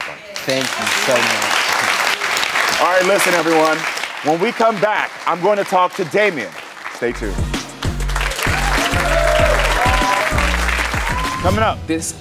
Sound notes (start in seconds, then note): 1.5 audience applauds; 7.0 upbeat music; 8.2 audience cheers